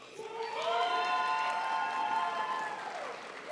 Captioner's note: crowd applauds